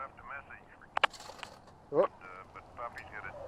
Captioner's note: payphone rattles